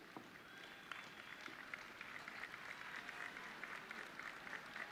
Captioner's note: audience clapping